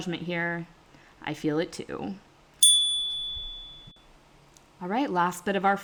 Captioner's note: chime